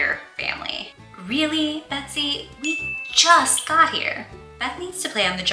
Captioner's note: ding sfx